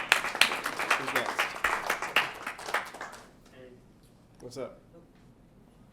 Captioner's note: applause